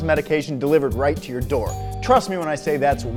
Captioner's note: doorbell rings